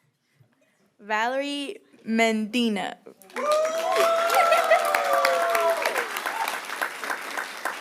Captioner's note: applause